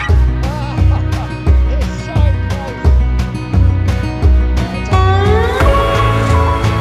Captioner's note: laughing